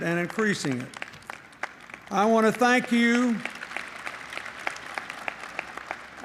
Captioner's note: applause